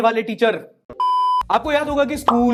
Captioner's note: beep